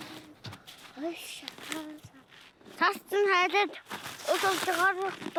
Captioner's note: foreign spoken audio